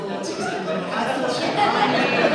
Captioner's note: audience laughs